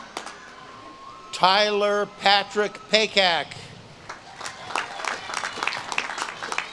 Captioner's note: audience claps and cheers